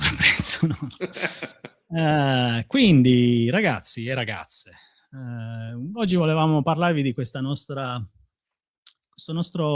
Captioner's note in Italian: risate